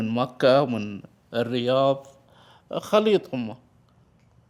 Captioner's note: speaking in Arabic